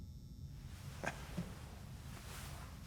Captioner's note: laugh